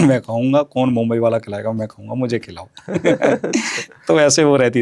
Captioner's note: sound of clearing throat